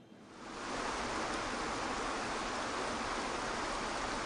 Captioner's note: waterfalls rumbles